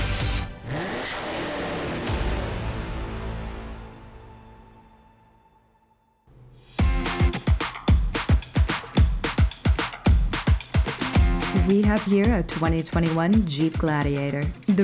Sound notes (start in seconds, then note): 0.1 car revs; 6.8 upbeat music